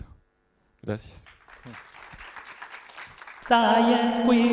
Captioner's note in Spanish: aplausos